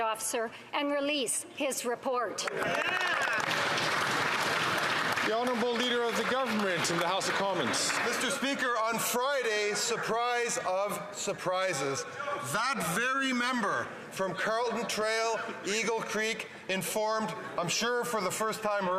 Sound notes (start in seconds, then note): 8.7 some Applause